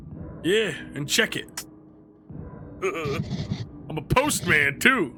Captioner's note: laughs